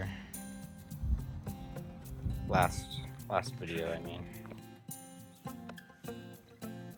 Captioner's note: wind blowing